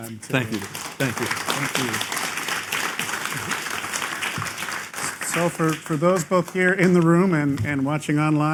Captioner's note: applause